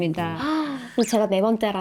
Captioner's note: inhale